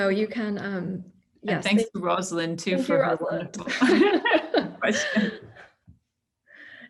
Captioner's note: laughter